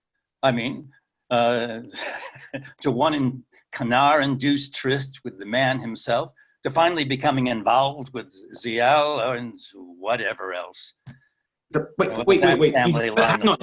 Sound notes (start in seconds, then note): 1.4 laughs